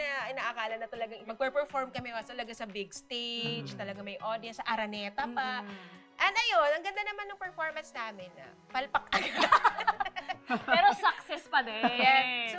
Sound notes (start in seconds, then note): 9.1 laughter